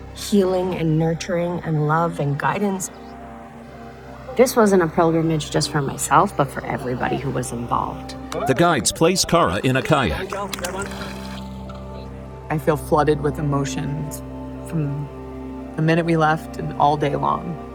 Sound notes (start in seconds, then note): 8.3 cheering